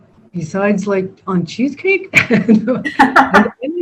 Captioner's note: laughs